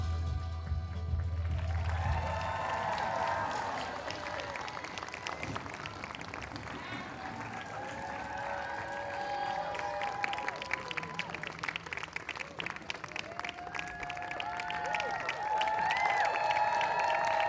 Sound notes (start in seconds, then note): 1.7 audience applauds; 1.7 audience cheers